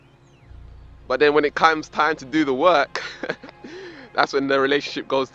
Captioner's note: laughs